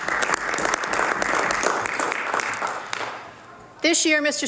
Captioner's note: some Applause